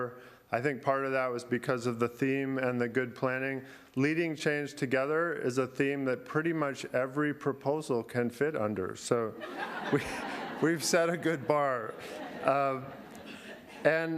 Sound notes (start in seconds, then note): 9.3 laughter